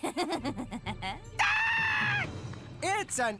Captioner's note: Izzy Giggling; Cameron Screaming